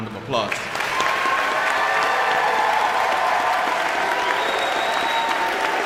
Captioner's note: audience cheering and applauding